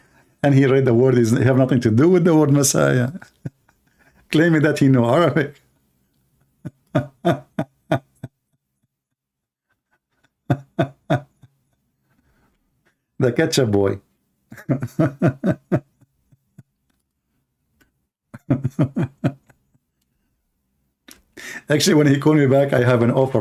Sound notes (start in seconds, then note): 6.5 Ketawa; 14.5 Ketawa